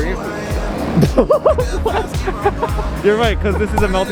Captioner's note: laughter